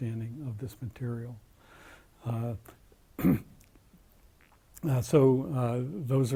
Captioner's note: cough